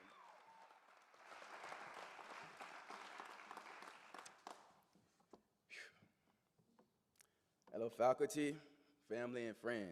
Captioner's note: applause